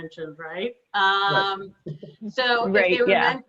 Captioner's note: laughs